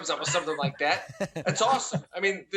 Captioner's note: laughing